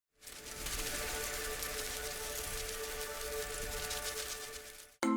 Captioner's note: butterflies Fluttering